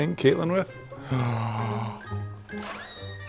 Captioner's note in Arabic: يلهث; صرير الباب; موسيقى مبهجة